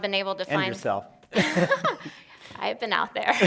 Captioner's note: laughing